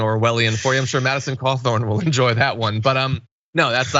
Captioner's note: laugh